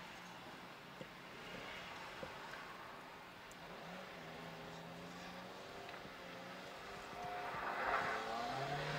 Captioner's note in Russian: буксует легковой автомобиль